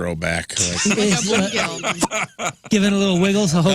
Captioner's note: laughing